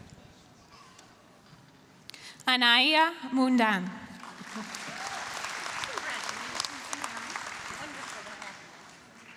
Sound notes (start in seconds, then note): 4.2 applause